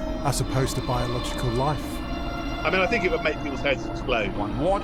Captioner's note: none